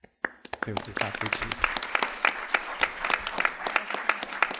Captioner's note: applause